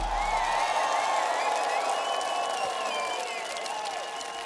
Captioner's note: applause, cheering